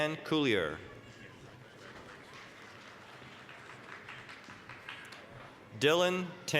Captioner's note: applause